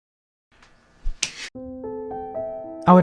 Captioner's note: cheese slaps; nice piano music